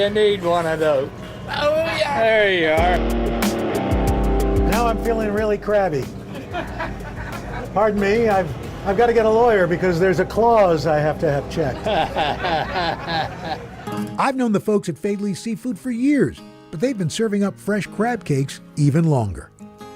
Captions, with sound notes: - There you go. You need one of those. There you are! - Now I'm feeling really crabby. Pardon me. I've got to get a lawyer because there's a clause I have to have checked. (chuckles) I've known the folks at Faidley's Seafood for years, but they've been serving up fresh crab cakes even longer.